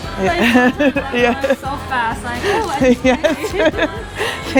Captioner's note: laughs